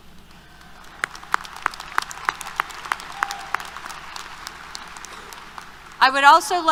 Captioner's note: applause